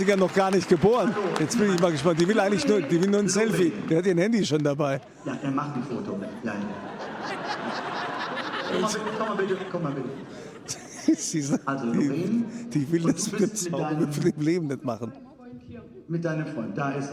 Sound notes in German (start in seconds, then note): 6.3 gelächter